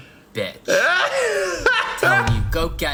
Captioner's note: Dan laughs